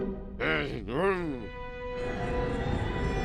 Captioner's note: eerie sound